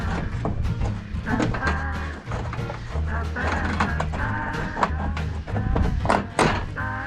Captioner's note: more metal/crowbar noises